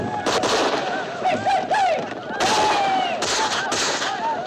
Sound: yipping

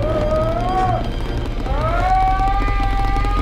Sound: Jack screaming

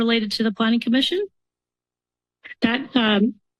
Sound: pause

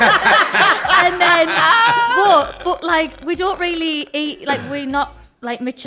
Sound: laughs

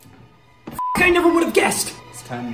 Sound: beep

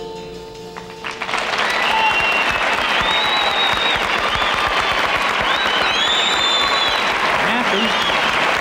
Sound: audience cheers and applauds

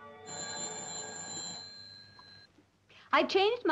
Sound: telephone rings

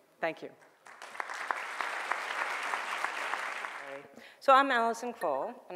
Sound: audience clapping

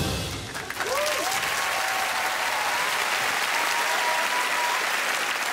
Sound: crowd applauds and cheers

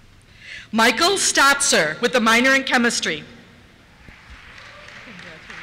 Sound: applause

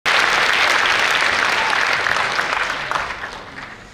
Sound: audience applauds

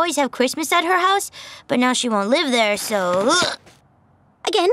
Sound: grunts

